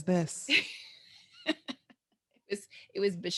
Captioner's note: laughs